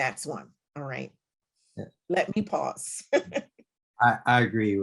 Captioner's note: laughs